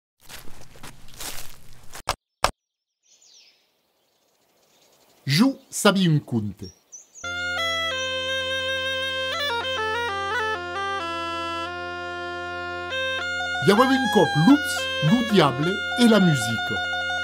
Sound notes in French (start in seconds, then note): 0.2 Bruit de pas dans des feuilles; 2.7 Chants d'oiseaux